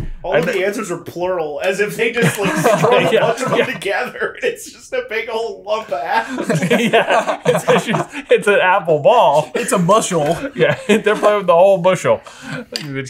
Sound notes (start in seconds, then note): 5.8 all laughing